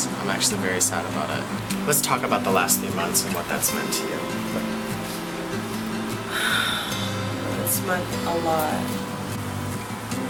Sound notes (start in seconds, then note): 6.2 sighs